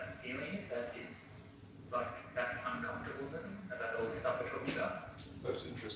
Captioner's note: audio distorts